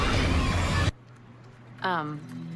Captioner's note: flames erupt